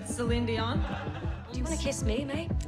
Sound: audience laughing

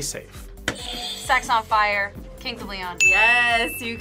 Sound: buzzer rings

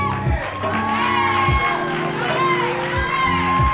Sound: crowd cheers

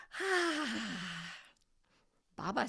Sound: sighs

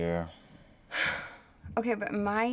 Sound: sighs

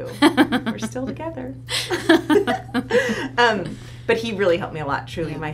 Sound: laughs; laughs

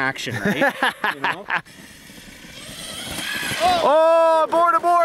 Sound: laughing

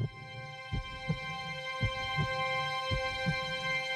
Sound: heartbeat

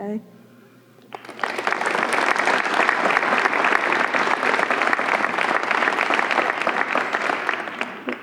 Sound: applause

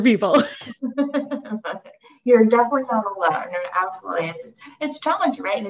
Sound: laughs

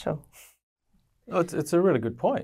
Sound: chuckles

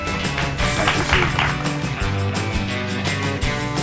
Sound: audience clapping; upbeat music

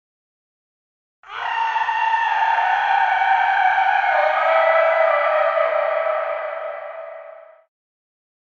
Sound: sound of werewolf

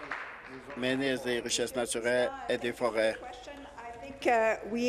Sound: applause

